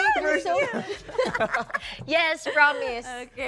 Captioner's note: laughter